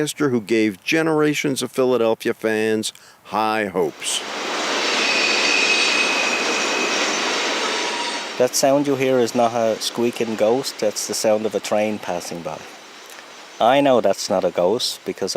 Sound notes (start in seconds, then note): 4.4 sound of train